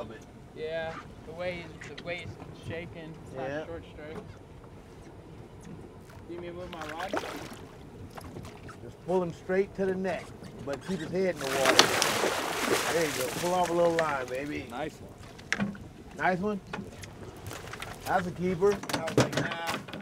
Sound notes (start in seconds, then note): 6.7 fish splashing; 14.0 fish splashing